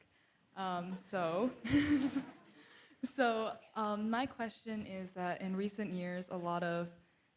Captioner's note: chuckles